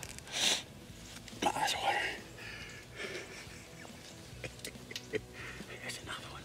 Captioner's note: laughing